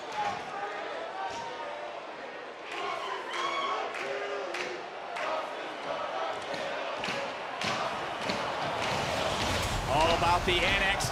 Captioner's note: cheering